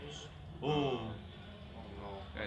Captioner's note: team groans; team murmuring